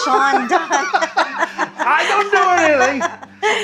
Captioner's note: laughs